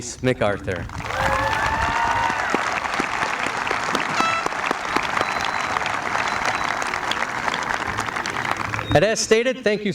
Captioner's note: applause